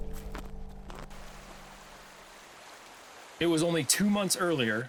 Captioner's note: waterfall running